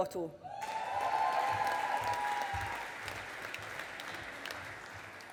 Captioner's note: audience applauding